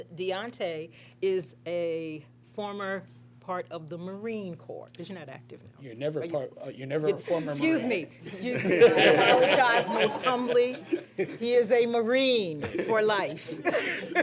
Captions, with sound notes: And Diante is a former part of the Marine Corps, 'cause you're not active now. >> You're never a former Marine. >> Excuse me, excuse me. [ Laughter ] I apologize most humbly. He is a Marine for life.